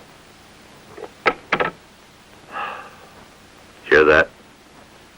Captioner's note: phone clatters